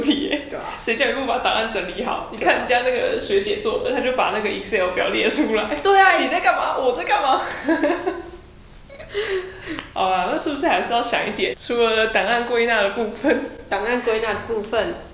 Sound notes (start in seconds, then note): 7.5 laughs